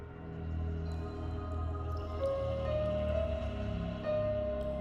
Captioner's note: eerie music; water dripping